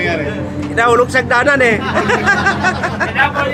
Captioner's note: laughing